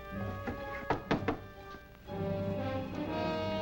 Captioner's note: knocking